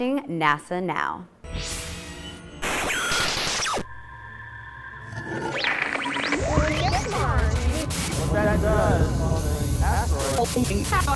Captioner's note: sound Effects